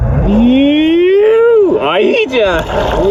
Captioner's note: underwater sounds